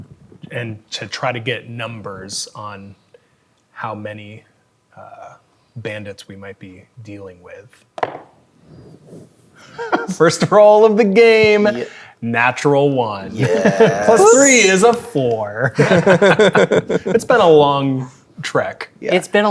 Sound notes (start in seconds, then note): 8.3 dice rolling; 9.7 laughing; 15.7 players laughing